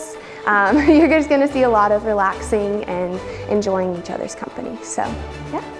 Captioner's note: laughs